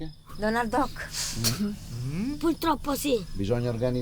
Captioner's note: spits